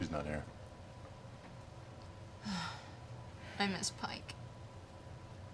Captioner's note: sighs